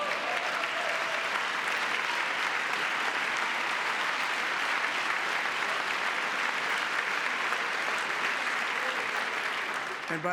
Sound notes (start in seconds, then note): 1.2 cheering; 3.8 applause